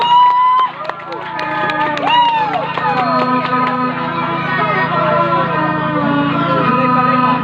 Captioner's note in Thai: ปรบมือ